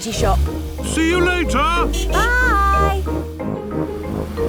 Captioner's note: honking